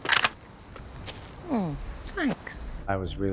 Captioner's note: gun clipping